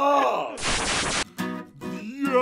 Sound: static then music resumes

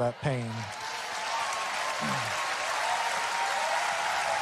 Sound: audience cheering

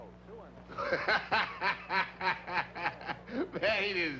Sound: Roy laughing

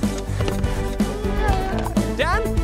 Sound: exhausted sigh

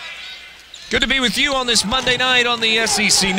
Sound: voiceover

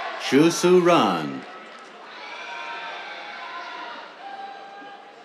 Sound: cheers

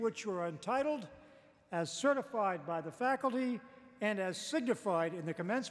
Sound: none

